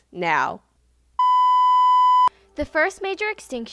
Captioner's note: beep